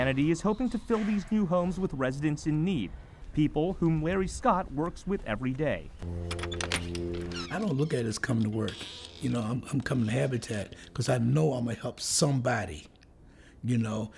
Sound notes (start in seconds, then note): 6.1 opening door